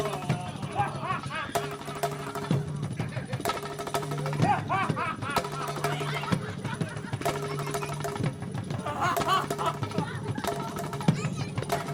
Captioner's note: Raghu da continues laughing hysterically